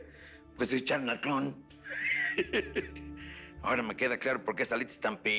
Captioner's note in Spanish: Ríe